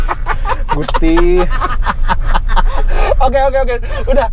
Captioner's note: laughing